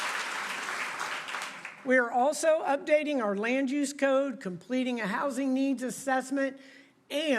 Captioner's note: applause